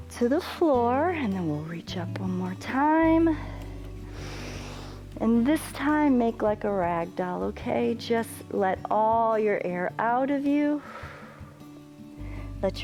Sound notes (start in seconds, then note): 3.4 inhales; 10.8 exhales